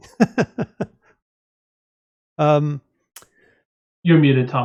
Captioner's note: laughs